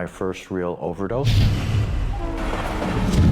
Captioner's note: loud whoosh; train horn blaring